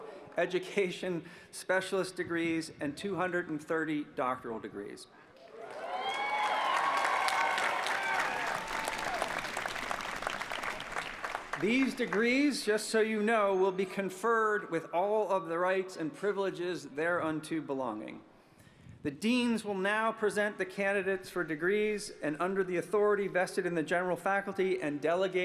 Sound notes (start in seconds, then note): 9.9 applause